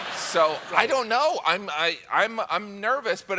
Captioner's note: laughter